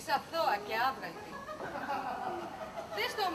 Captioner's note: ακούγονται γέλια